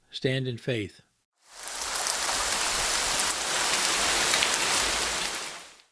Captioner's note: water Splashing